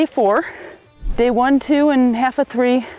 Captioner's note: audio whooshes